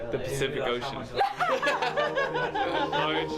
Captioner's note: <i>laughs</i>